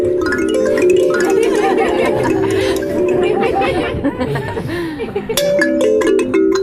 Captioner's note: laughter